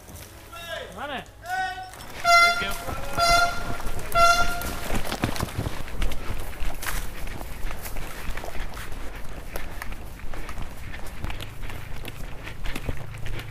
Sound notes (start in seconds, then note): 1.4 3 Airhorns